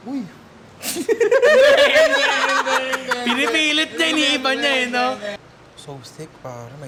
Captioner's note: laughter